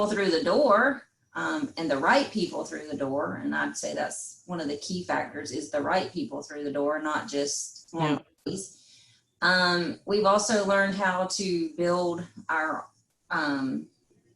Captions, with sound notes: through the door, and the right people through the door. And I'd say this, one of the key factors is the right people through the door and not just (faintly speaking) We've also learned how to build our sales skills